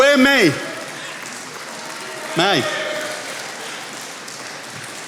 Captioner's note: attendees applauding